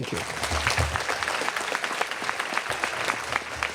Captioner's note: applause